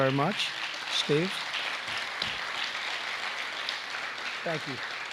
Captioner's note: applause